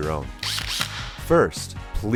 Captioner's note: drill whirring